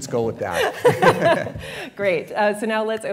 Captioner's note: laughs